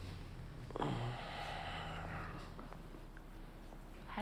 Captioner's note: moans